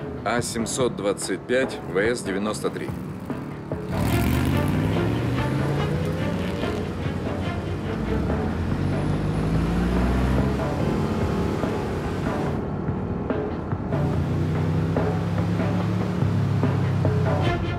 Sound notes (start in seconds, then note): 4.0 car sounds; 10.4 suspenseful music